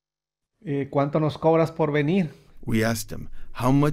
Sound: speaking Spanish

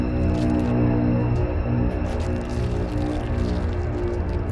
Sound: blood squelching

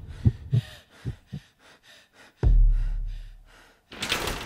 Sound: heartbeat

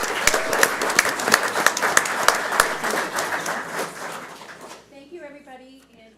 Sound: audience applauds

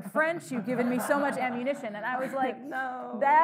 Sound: audience laughing

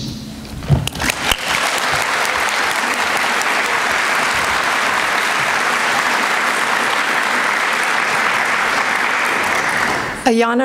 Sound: applause

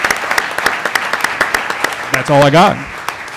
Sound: applause

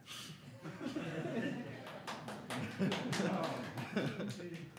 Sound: laughing

